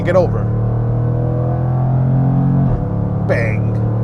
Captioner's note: engine revving